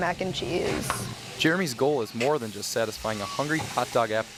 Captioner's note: voiceover